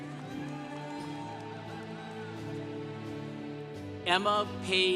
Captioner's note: congregation cheering